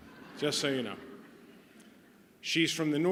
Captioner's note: laughter